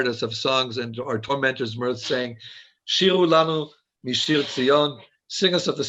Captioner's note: speaking foreign language